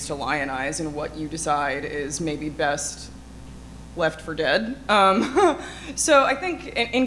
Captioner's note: chuckles